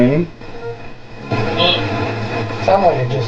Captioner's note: radio static hissing